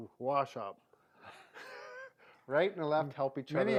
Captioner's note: laughing